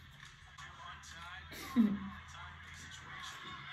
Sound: giggles

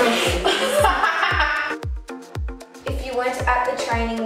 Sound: laughs; both laugh

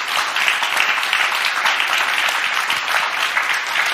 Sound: applause; cheers; applause; cheers

